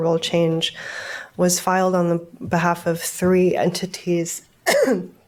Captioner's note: coughs